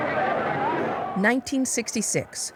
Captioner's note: horns blaring